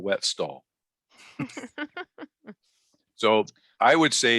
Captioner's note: both laugh